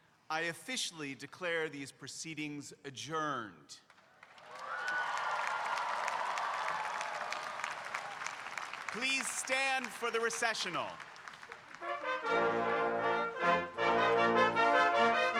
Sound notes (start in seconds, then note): 4.1 audience cheering and applauding; 11.6 stately music